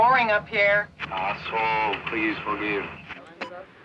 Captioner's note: man On Radio